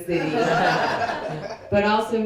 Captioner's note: people laughing